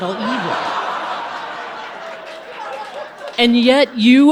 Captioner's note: audience laughing